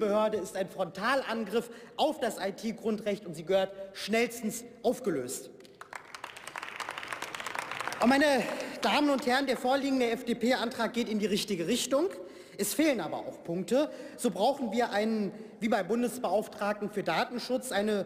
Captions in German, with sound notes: Diese Behörde ist ein Frontalangriff auf das IT-Grundrecht und sie gehört schnellstens aufgelöst. (Beifall) Und meine Damen und Herren, der vorliegende FDP-Antrag geht in die richtige Richtung. Es fehlen aber auch Punkte. So brauchen wir einen, wie beim Bundesbeauftragten für Datenschutz,